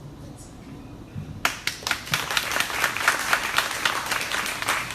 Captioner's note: crowd applauding